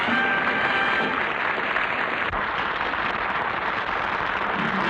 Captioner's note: music & applause; applause; music & applause